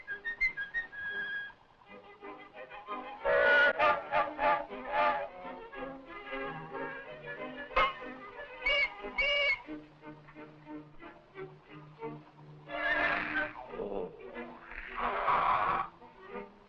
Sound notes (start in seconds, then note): 12.7 growling